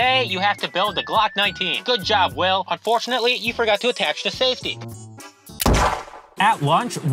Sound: gunshot

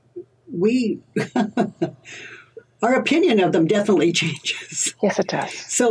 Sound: laughs

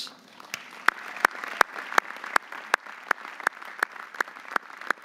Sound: audience applauding

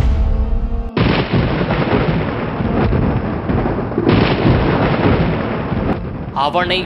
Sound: thunder noise

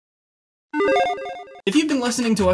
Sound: logo beeping

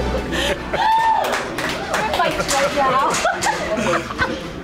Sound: cheering

